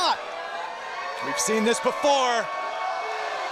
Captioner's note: crowd cheering